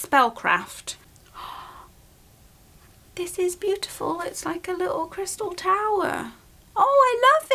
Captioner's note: gasps